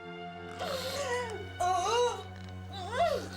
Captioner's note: Agnes cries out